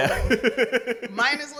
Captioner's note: laughs